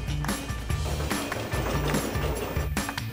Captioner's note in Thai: เสียงรถยนต์